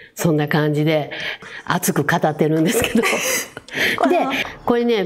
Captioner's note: laughs